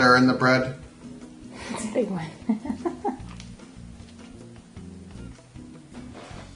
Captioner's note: laughs